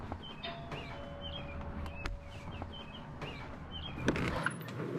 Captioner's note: doorbell ringing